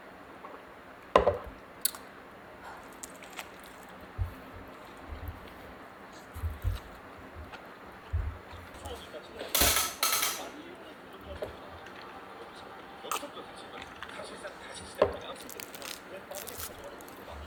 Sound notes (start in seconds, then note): 2.6 sighs